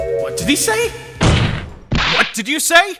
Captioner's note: slam